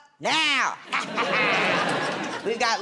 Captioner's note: laughter